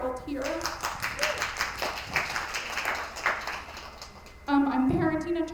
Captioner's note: attendees applauding